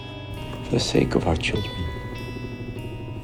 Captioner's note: voiceover